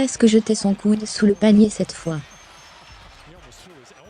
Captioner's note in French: rire